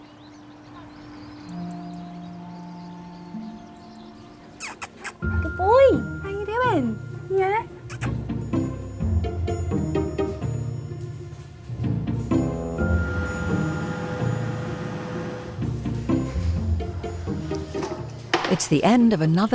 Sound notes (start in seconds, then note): 0.2 birds chirping; 4.5 lips smacking; 7.8 lips smack; 8.7 playful music